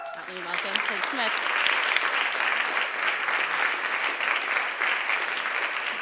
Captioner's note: applause